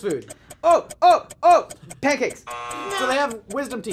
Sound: buzzer

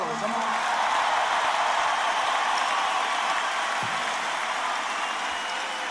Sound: cheers and applause

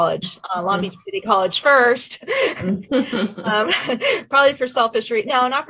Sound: chuckles

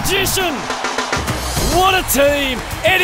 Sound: cheering

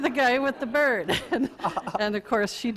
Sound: audience laughter

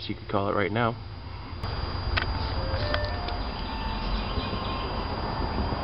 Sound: birds Chirping

